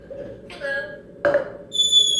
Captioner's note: improvisation of the smoke alarm chirp